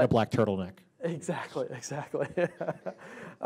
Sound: laughing

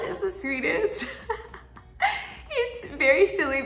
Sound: Tati laughs

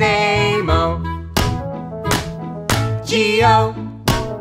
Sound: claps

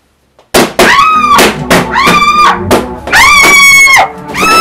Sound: baloons pop; screams

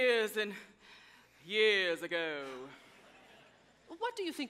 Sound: audience chuckles

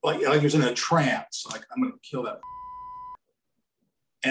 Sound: beep

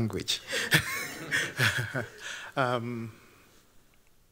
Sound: chuckles

